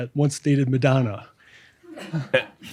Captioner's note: laughter